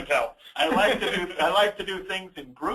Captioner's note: both laughing